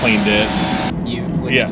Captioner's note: pressure washer buzzing